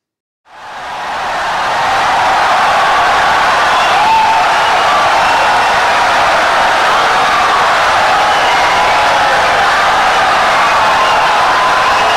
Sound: wild applause and cheering for 17 seconds

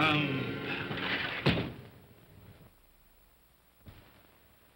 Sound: window slides shut

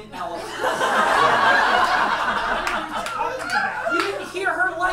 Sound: audience laughs

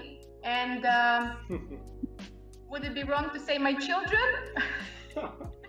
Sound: laughs

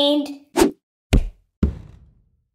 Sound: thud

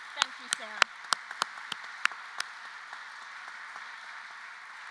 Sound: applause

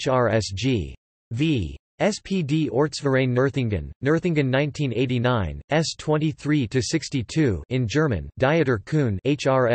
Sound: in German

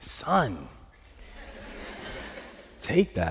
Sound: laughter

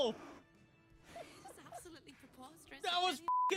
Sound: giggling

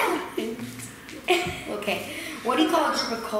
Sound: laughs

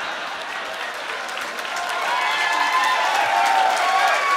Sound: cheering

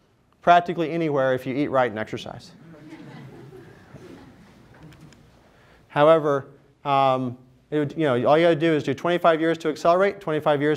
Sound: laughter

